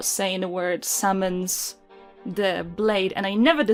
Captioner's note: none